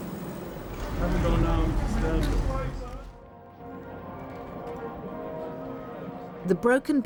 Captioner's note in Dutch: Prins Charles mompelt; man mompelt